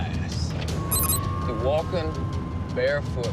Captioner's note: siren wailing